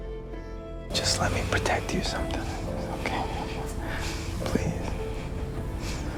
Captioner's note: whispering